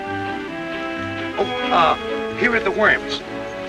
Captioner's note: audience laughing; pleasant music; car horn honking